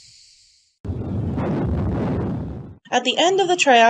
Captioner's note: explosive sounds